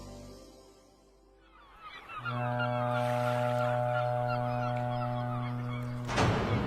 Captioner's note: ship horn and seagulls sound